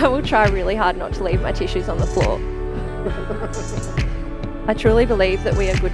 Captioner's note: people laughing